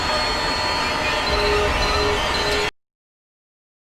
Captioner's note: beeping